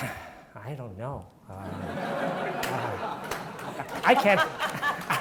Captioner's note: audience laughing